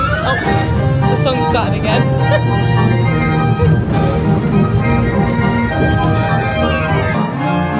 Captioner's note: bright music continues; laughing